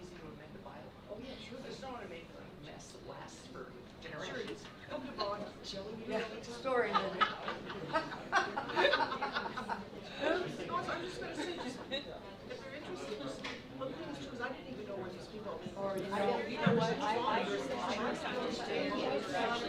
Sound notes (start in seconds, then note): 3.4 board murmuring; 6.8 laughter